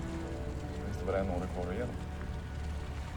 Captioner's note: speaking Swedish